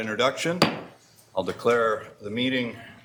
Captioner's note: gavel banging